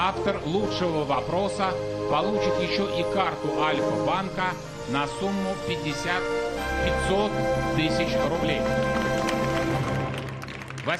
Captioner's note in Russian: аплодисменты